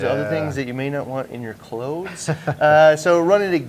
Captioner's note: laughs